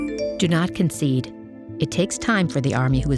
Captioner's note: phone chimes